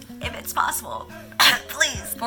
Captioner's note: 𝘤𝘰𝘶𝘨𝘩𝘴